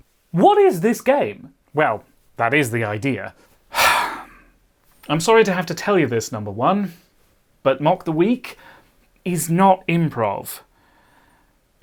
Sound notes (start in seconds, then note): 3.7 sigh